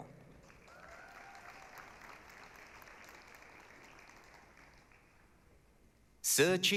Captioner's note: applause, cheering